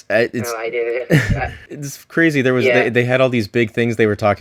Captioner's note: laughs